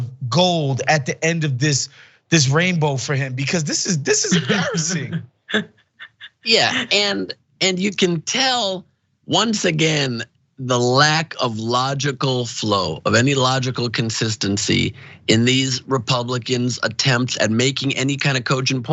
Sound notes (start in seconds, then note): 3.6 laugh